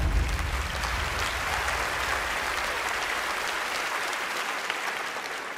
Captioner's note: audience applauding